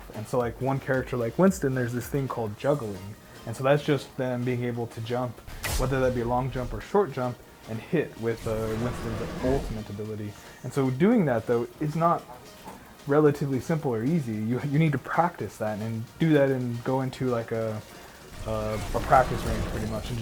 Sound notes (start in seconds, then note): 5.4 jets popping; 10.0 gorilla roars